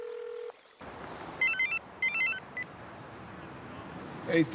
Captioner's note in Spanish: Suena el celular